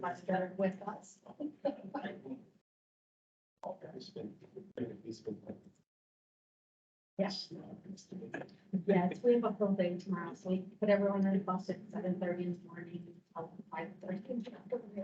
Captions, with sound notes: much better with us. [indistinct chatter] - Yes, we have a full day tomorrow. So we put everyone on a bus at 7:30 in the morning 'til 5:30 in the afternoon.